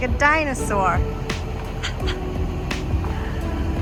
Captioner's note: laughing at my own joke